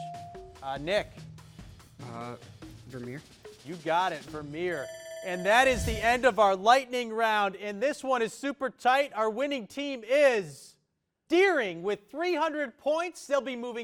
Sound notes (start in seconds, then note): 0.3 bell dings; 4.6 alarm rings